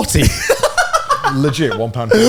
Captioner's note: laughs